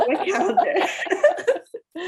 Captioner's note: laughter